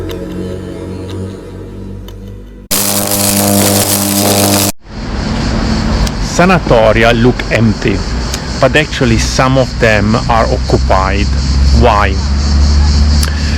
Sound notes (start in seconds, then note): 0.0 ominous music; 2.7 electric spark